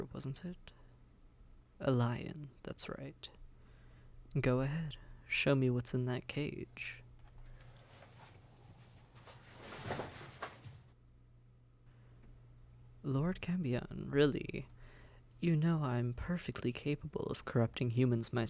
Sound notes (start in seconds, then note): 8.8 SFX: Tarp rustles as it's pulled off the cage